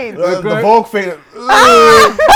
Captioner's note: laughter